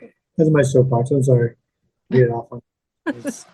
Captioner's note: laugh